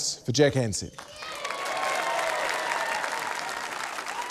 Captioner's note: cheering, applause